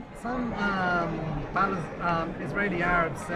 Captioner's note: voiceover